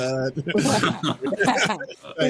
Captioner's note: laughing